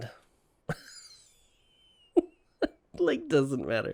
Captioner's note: chuckles